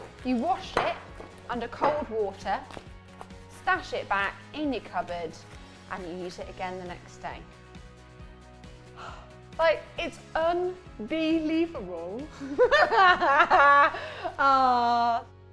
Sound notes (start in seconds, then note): 12.1 laughs